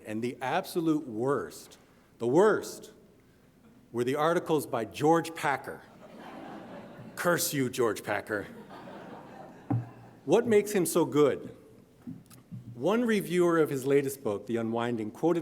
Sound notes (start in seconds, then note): 6.0 audience laughing; 8.5 audience chuckling